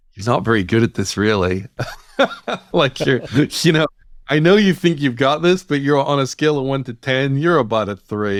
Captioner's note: laughter